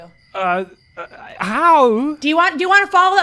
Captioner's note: stammers